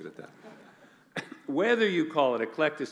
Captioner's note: laughing